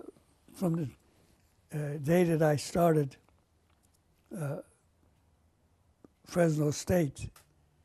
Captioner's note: pauses for 3 seconds